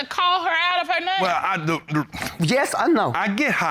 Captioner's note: stammers